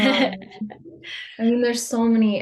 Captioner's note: laughs